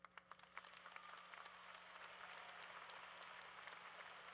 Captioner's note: applause